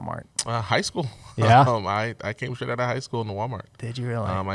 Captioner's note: chuckles